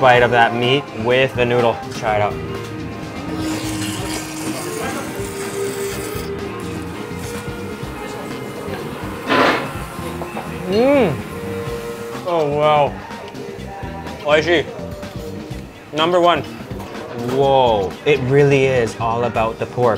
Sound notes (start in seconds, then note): 3.2 broth slurping